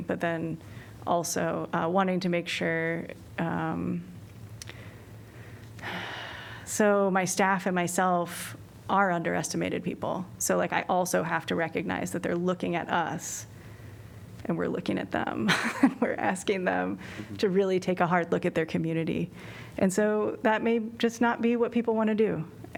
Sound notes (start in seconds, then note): 15.4 laughter